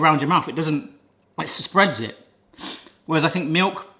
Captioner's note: sniffs